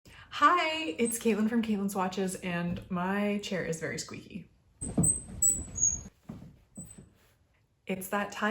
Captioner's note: chair squeaking noises